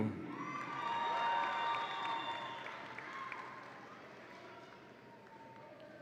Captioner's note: audience applauds and cheers